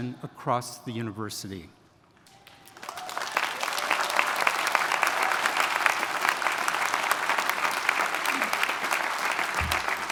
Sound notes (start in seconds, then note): 2.3 attendees cheering; 2.4 attendees applauding